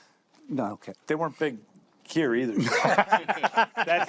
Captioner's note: laughs